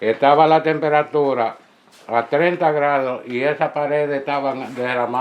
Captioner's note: tenant speaking Spanish